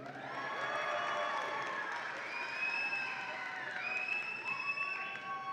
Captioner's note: audience applauds and cheers